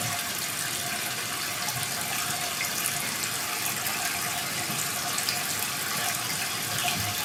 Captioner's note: water trickling continues